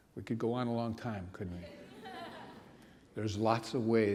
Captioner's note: laughter